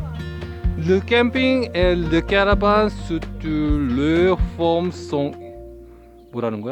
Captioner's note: reading French